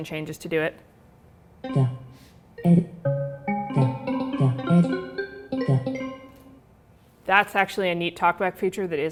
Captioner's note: series of rising tones